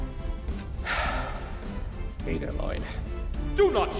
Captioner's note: sigh